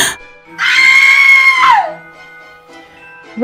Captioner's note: screams